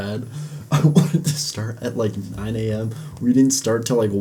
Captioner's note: coughing